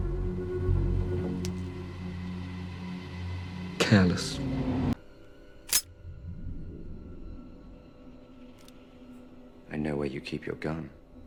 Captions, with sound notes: Careless. [Click] I know where you keep your gun.